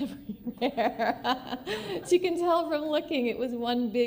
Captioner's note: laughter